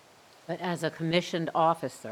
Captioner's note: none